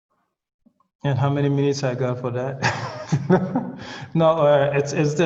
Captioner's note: laughs